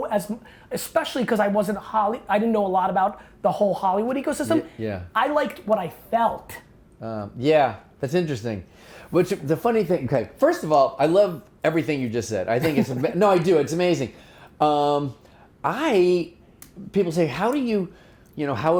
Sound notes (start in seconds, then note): 12.6 laughing